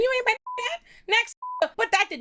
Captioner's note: beep